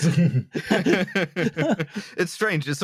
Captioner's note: laughing